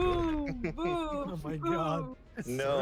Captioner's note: laughs